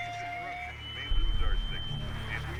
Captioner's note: phone filter speech